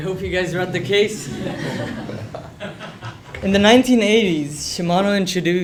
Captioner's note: laugh